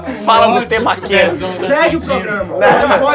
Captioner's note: risos